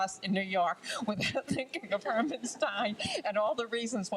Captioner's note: laughs